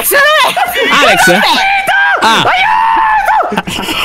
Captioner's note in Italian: urla